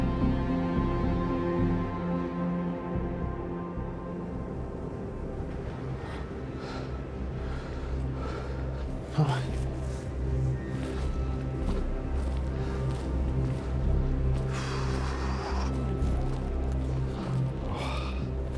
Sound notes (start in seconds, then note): 14.7 Brian panting